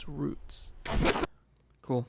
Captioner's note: radio static